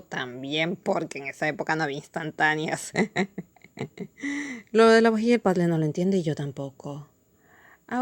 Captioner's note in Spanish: risas